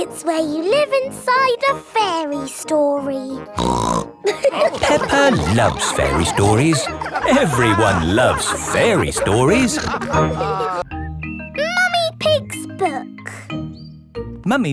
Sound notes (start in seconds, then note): 3.5 snorts; 4.2 all laughing